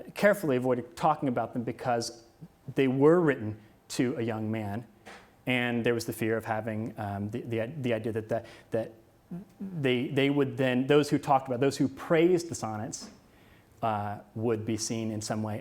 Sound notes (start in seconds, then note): none